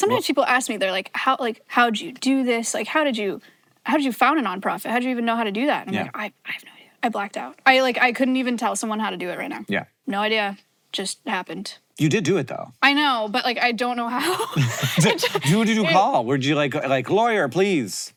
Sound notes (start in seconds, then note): 14.2 both laugh